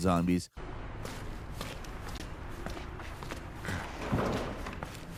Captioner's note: footsteps pounding